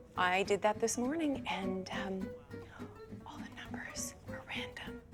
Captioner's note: whispers; gasping